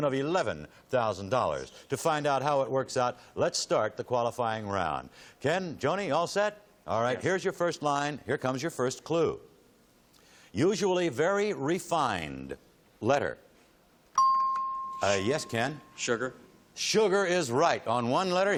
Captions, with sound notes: to the tune of $11,000. To find out how it works out, let's start the qualifying round. Ken, Joni, all set? All right, here's your first line. Here comes your first clue. "Usually very refined." Letter? [ping] Yes, Ken? - Sugar. - Sugar is right.